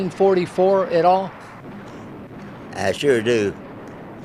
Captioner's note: canons blast